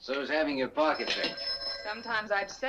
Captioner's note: phone rings